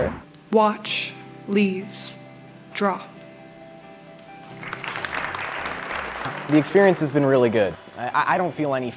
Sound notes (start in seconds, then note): 4.5 applause